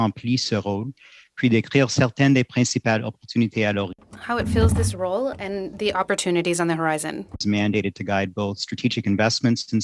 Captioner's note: speaking French